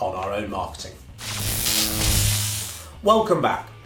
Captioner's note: electric buzz